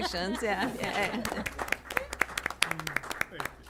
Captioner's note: applause